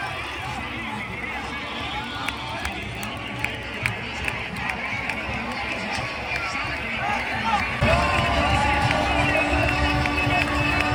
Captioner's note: cheering